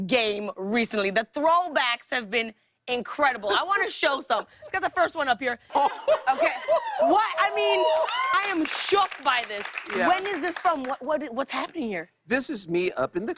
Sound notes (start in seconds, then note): 5.7 laughter; 6.5 scattered applause